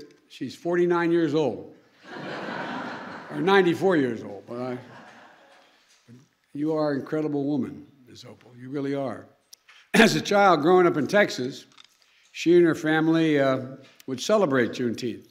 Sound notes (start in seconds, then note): 2.0 laughter; 5.6 laughter